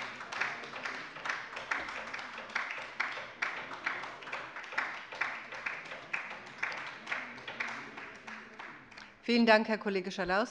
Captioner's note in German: Beifall bei der LINKEN